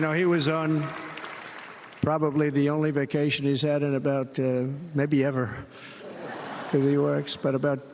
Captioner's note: applause